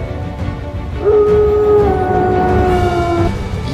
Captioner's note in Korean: 울음소리